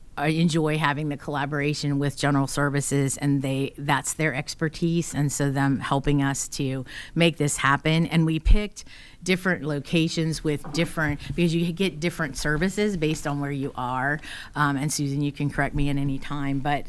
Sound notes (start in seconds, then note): none